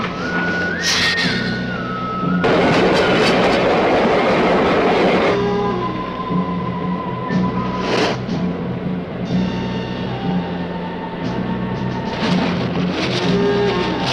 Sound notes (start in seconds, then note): 0.8 lizard hissing; 2.6 engine rumbling